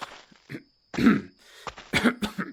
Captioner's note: clearing his throat